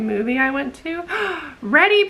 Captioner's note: gasp